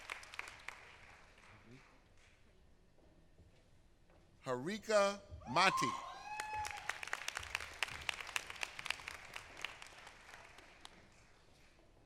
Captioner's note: applause